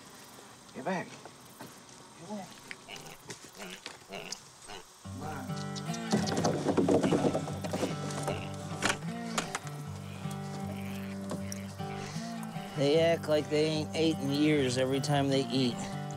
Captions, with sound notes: Get back. In there. (piglet grunts) Come on. (languorous country music) They act like they ain't ate in years every time they eat.